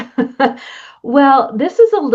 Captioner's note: laughter